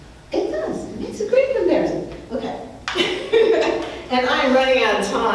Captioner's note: laughs